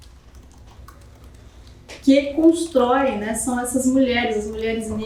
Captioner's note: speaking portuguese